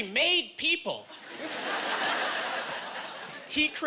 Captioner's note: laughing